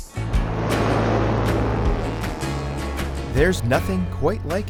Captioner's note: airplane engines roar